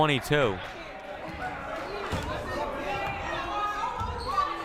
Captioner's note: crowd murmuring